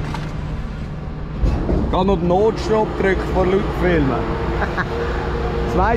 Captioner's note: laughs